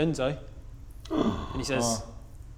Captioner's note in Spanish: Respiro de sorpresa